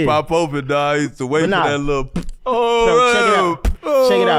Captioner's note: pops